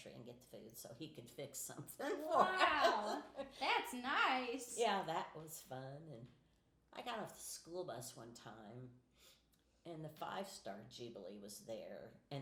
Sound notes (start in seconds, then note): 2.0 laughing